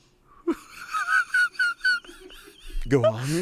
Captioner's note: laughs